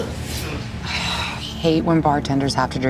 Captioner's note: sighs